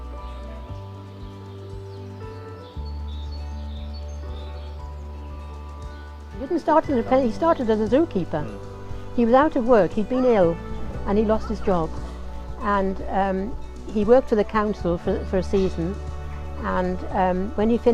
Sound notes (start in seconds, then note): 1.1 birds Chirp